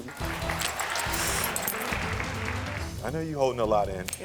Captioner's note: crowd cheering